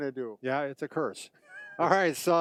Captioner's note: chuckles